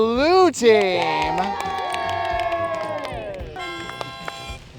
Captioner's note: blue team cheering; harmonica plays